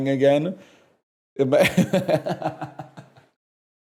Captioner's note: laughs